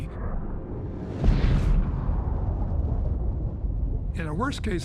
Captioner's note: spacecraft crashes